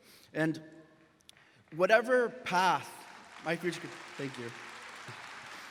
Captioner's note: graduates clapping